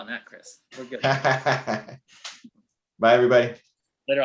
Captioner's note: laughs